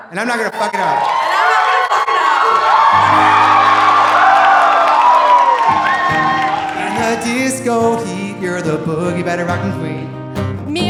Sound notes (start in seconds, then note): 2.5 audience applauding; 2.5 audience cheering; 5.2 gentle guitar music